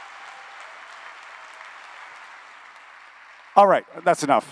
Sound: applause

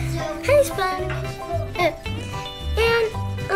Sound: none

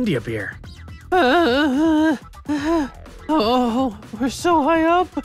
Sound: scared

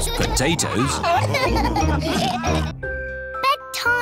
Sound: laughter

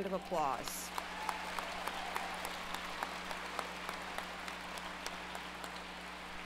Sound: applause

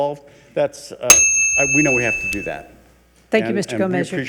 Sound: bell chimes

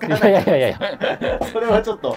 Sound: laughing

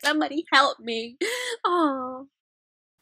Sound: breath

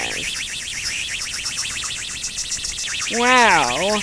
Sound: rocket engine

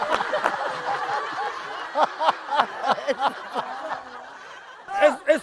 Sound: laughing

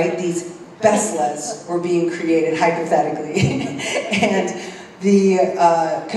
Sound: laugh

